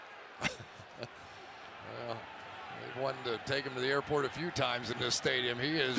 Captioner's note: chuckles